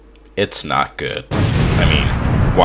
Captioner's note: le explosion